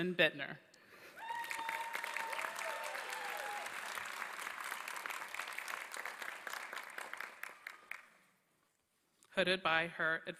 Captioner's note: applause